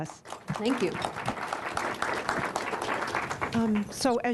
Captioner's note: applause